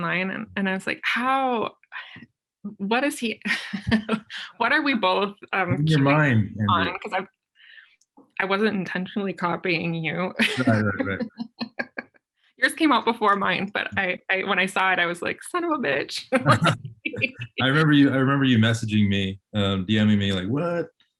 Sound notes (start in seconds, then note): 2.0 laughs; 10.3 laughing; 10.4 laughs; 16.4 both laughing